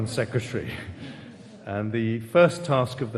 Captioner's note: audience laughing